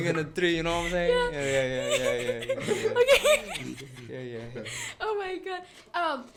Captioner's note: uncontrollable laughing